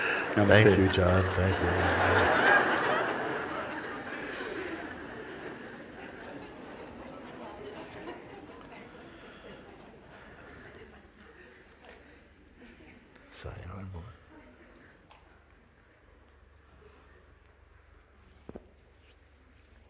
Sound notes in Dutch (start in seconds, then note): 3.1 gelach